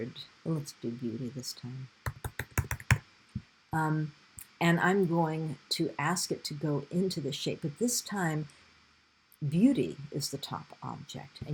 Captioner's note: sound of typing